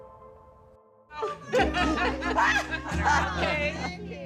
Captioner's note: shouts and laughs